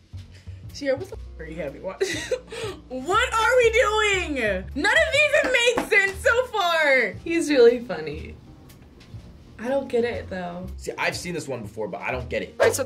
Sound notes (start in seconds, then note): 2.0 chuckles